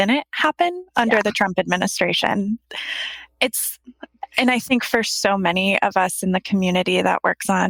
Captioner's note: laughs